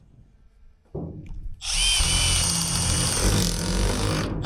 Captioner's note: drill whirring